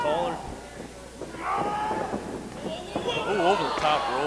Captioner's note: yells